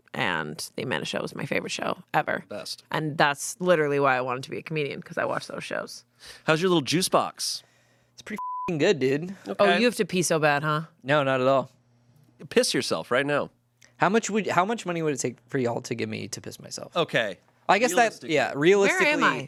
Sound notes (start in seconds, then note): 8.4 beep